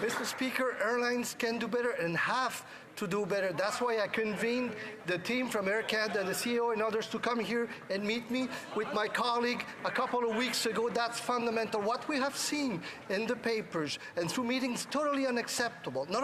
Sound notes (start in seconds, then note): 0.0 some Applause